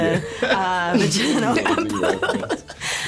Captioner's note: laughing